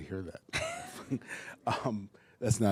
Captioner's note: laughing